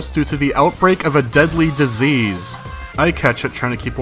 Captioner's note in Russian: громкий крик